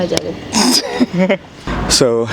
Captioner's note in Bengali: হাসি